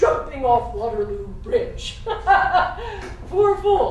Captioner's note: laugh